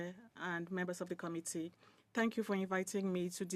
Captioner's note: speaking in French